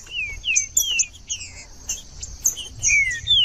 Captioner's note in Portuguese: trinca ferro cantando